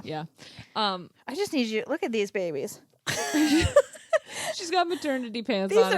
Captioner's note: both laughing